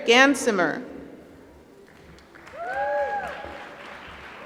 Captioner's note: applause